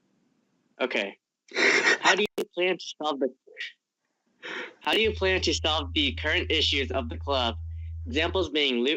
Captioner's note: laughing